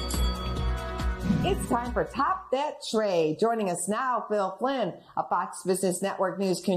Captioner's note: bell rings